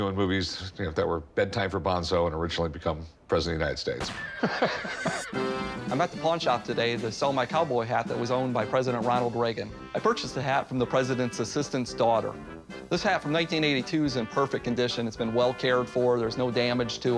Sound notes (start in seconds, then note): 4.0 gunshot, horse neighs; 4.1 laughs